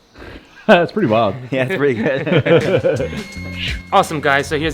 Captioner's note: laughs